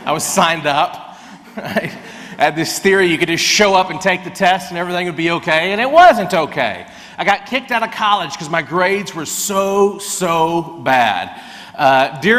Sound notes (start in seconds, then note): 1.3 laughs